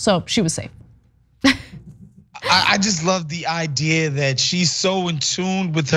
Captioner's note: laugh